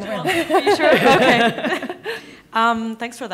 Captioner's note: laughing